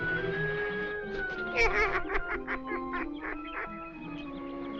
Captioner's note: bird laughing